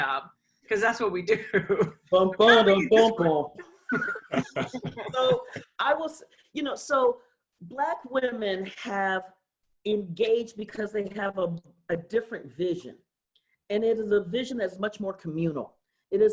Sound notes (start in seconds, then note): 3.8 laughter